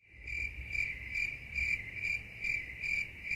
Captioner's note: crickets chirping